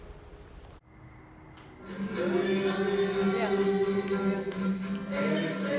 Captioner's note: crickets chirp, guitar plays